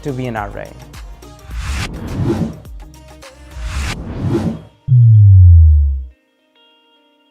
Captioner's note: upbeat music; wind whooshing